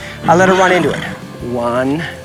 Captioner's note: horse neighing